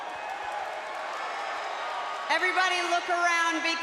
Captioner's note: crowd cheering